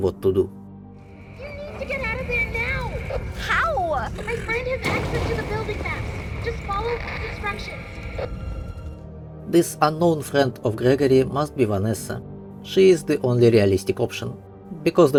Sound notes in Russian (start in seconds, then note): 6.2 помехи